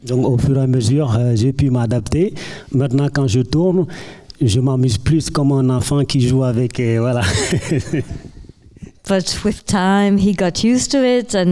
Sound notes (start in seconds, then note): 0.1 speaking in French; 7.1 laughing